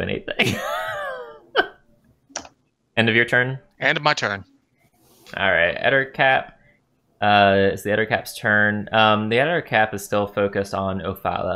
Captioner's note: laughter